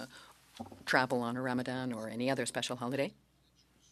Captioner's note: speaking French